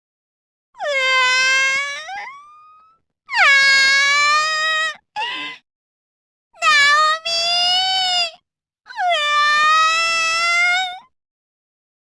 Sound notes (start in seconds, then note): 5.2 cries; 10.7 cries